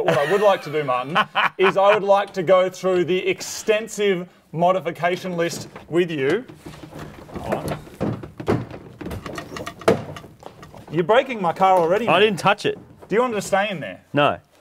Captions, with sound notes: -But what I would like to do, Martin, -[laughs] is I would like to go through the extensive -modification list with you. -[door rattles] -Oh. -[door rattles and bangs] -You're breaking my car already! -I didn't touch it! -Do you wanna just stay in there? -No.